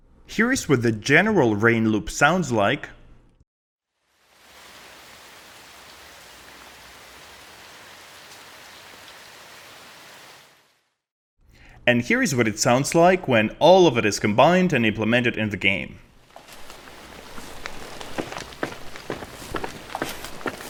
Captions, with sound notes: Here is what the general rain loop sounds like. [PATTERING RAIN] Here's what it sounds like when all of it is combined and implemented in the game. [PATTERING RAIN] [FOOTSTEPS]